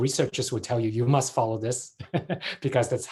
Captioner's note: chuckles